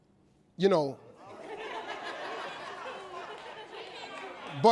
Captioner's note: audience laughs